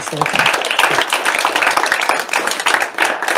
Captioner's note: applause